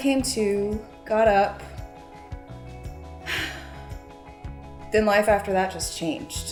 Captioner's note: sighs